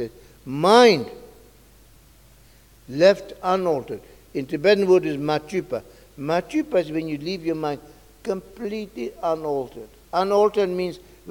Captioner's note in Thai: กล่าวเป็นภาษาทิเบต